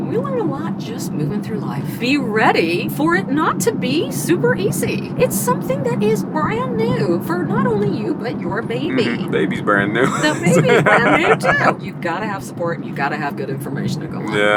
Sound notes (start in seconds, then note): 8.8 laughs